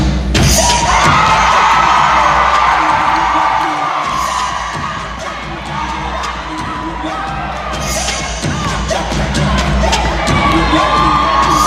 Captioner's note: cheering